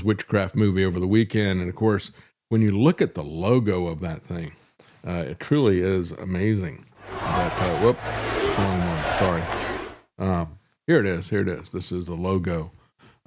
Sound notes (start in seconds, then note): 7.0 audience Cheering